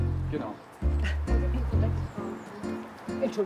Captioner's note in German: Stimmengewirr